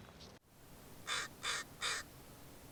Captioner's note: crow caws